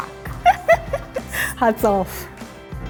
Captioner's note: laughing